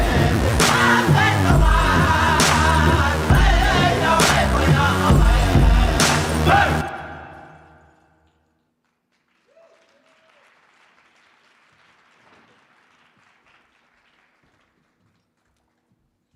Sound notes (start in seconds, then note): 9.1 audience applauds